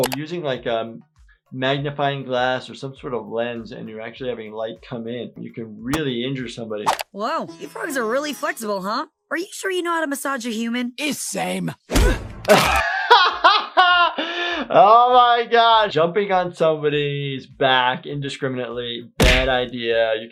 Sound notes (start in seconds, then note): 12.4 both grunting, bones crack; 12.4 laughing